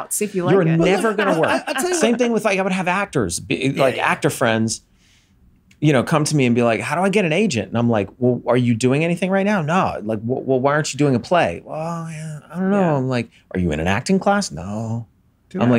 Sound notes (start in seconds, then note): 0.3 laughs